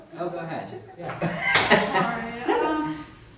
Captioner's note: laughs